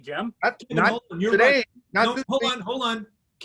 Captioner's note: speaking in unison